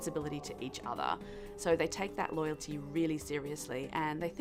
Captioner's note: howling in background